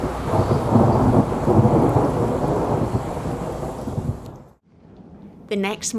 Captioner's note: thunder noise